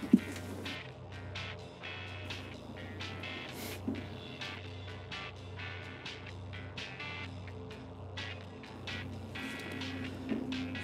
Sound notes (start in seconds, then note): 3.3 Gunderson scoffs; 6.6 upbeat music continues